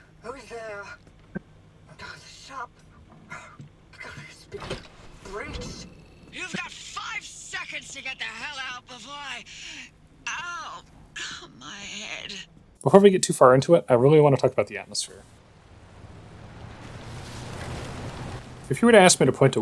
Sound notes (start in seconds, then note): 16.4 loud Wind